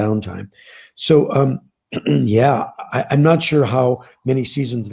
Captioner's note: clears throat